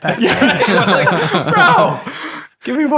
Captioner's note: all laughing